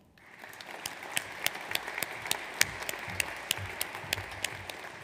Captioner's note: audience applauds